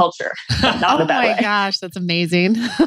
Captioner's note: laughs